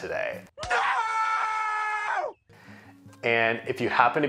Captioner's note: screams